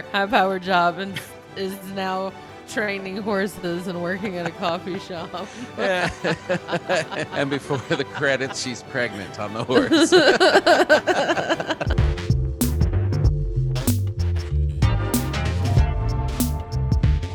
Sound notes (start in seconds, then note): 10.8 laughter; 13.2 soft music